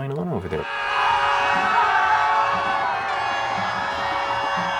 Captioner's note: people screaming